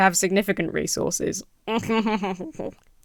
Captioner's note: laughs villainously